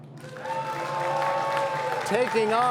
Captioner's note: cheers and applause